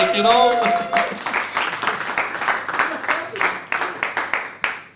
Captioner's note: audience applauds